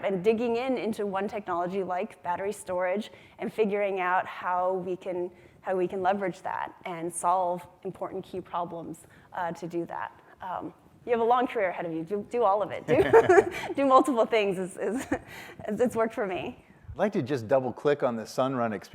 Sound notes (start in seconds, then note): 12.9 laughs